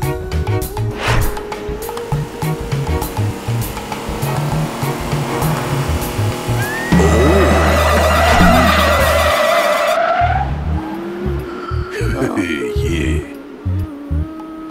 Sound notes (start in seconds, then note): 7.7 car screeches; 11.9 chuckles